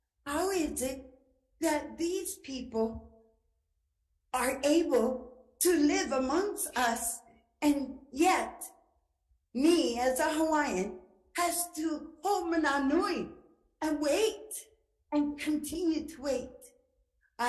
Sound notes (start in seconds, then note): 10.4 speaking Ōlelo Hawai'i